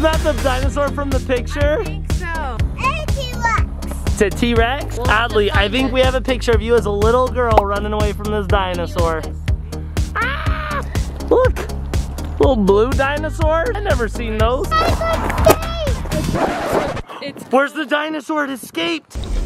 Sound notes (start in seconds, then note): 10.1 screams